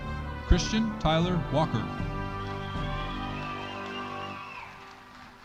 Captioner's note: audience cheering